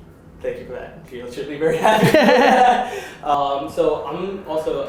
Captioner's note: laugh